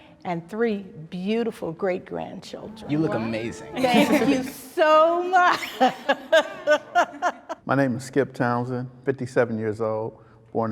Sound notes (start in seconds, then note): 5.4 laughs